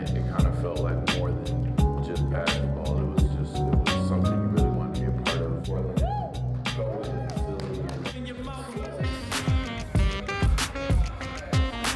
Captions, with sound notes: it kind of felt like more than just passing the ball It was just... it was something you really want to be apart of. (Cheering) (Party music)